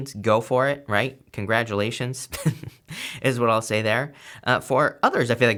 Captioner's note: laughs